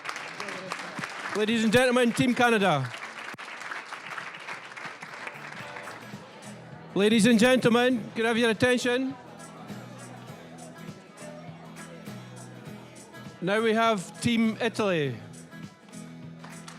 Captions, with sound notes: (applause) >> Ladies and gentlemen, Team Canada! (applause) Ladies and gentlemen, could I have your attention? (general chatter) Now, we have Team Italy.